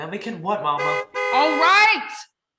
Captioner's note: car honks